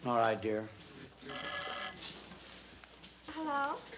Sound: phone ringing

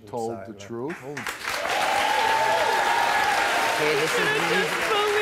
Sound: audience applauds

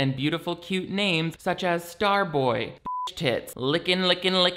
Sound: beep

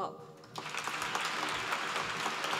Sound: applause

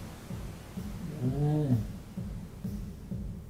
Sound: muffled voice

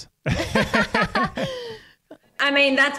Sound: laugh

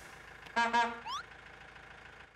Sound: honking

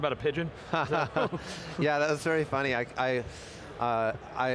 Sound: laughs

